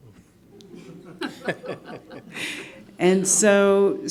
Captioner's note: all laughing